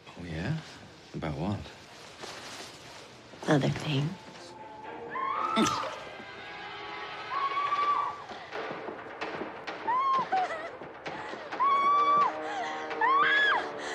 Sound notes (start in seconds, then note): 5.2 woman screaming in distance; 13.0 screaming